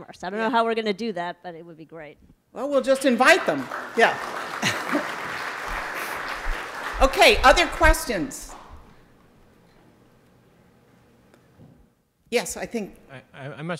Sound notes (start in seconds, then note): 4.7 audience applauding